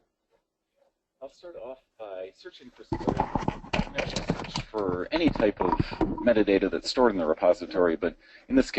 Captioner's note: mic noise